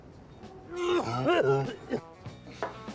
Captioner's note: vomits